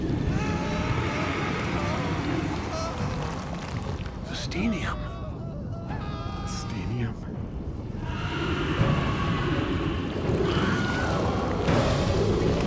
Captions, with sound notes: (people screaming) - The Steenium. - The Steenium. (people screaming)